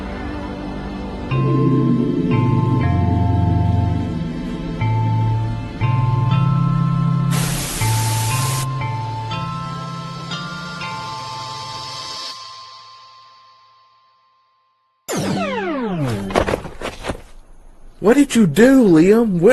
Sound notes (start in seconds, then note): 7.4 static; 11.5 music fades out; 15.2 teleportation sound; 16.0 heavy thumps